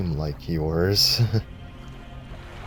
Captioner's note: chuckles